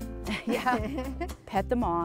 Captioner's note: chuckling